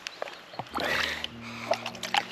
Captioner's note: puff